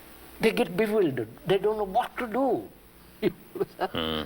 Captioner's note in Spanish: Risas